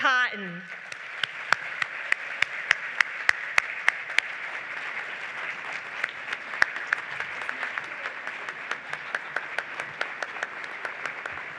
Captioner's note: applause